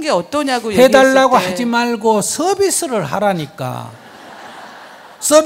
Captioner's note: audience laughs